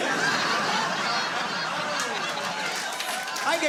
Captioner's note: laughter